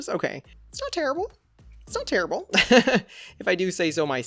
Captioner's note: laughs